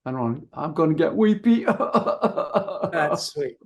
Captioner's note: imitates crying